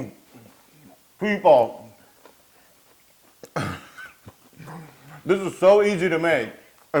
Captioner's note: laugh